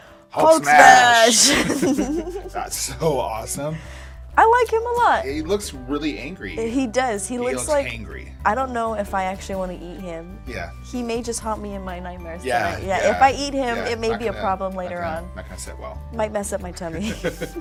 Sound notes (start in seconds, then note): 1.4 both laughing